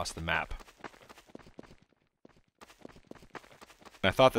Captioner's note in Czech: zvuk Scoutova běhu